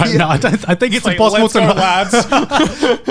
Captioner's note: laughing